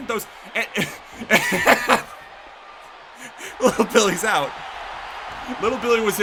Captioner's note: laughs